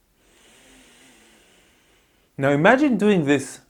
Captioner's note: inhales deeply